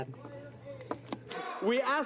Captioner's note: speaking French